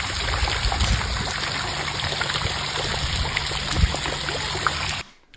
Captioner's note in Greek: χειροκρότημα